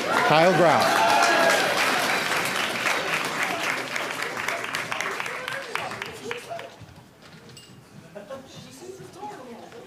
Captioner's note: applause